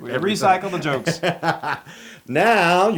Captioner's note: laugh